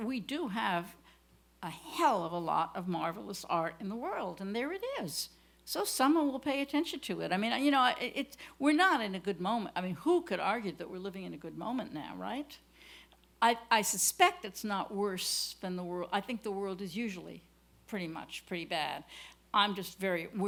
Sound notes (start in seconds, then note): none